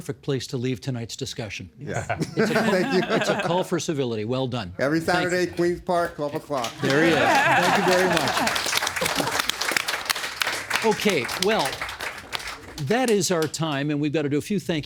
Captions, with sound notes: Mr. Taylor, that's a perfect place to leave tonight's discussion. Yeah. It's a call for civility. Well done. Thank you. Every Saturday at Queen's Park, 12:00. There he is. Thank you very much. (Applauding) Okay. Well, that is our time, and we've got to do a few thank yous